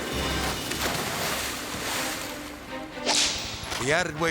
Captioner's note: water splashes